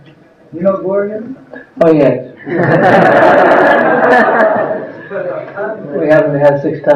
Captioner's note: laughter